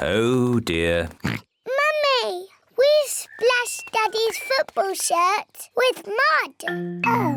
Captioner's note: oinks